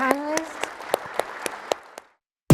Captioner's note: applause